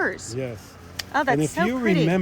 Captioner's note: scissors snapping